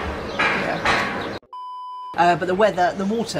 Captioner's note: beep